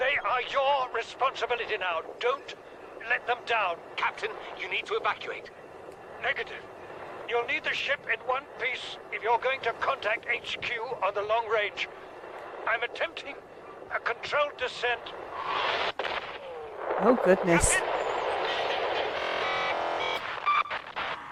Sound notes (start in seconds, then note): 15.4 large Explosion